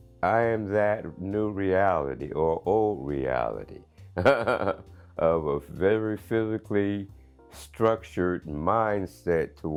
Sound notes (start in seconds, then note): 4.2 man laughing